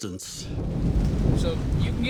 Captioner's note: thunder rumbling, sounds of raindrops